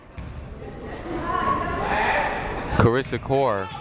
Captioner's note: people shouting in the crowd